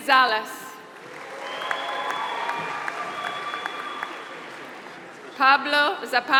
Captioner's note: applause